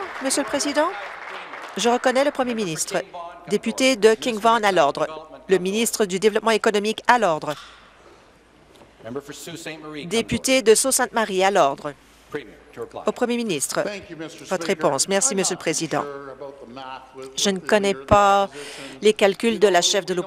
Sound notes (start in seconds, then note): 1.5 applause